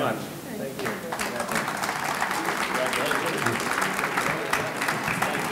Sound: audience clapping

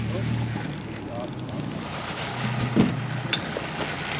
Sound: reel cranking; boat engine idling; reel cranking

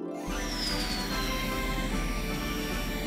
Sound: air blows

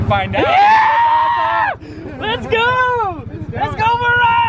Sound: screaming

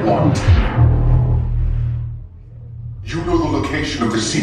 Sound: lightsaber whooshing

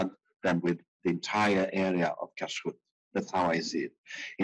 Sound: speaking in foreign language

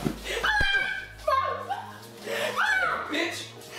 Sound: Crystal screaming

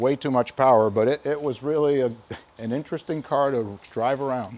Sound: laughs

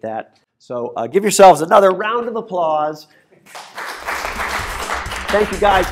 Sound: applause

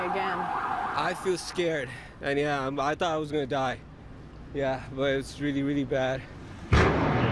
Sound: siren

